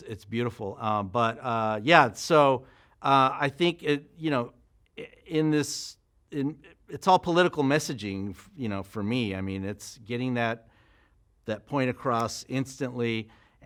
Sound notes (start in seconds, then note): none